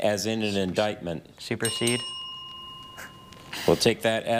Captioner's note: bell dinging